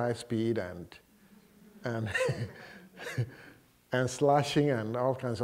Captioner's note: laughter